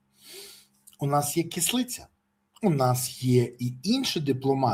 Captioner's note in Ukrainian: сопіння